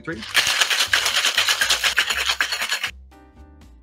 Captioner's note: ice clattering